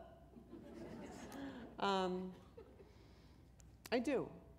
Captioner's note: chuckle